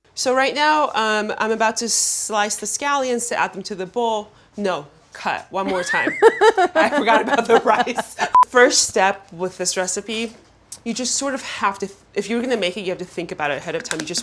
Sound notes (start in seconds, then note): 5.6 Claire laughing